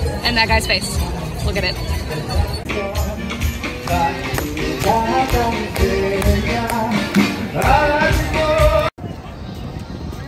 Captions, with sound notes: and that guy's face. Look at it. (upbeat music) (clapping)